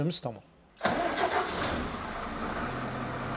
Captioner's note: ignition